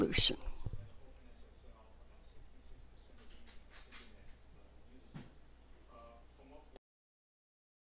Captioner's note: silence